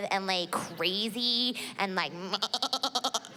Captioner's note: mimics baaing